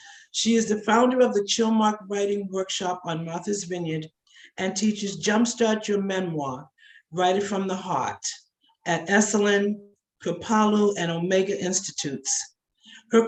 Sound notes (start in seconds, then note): none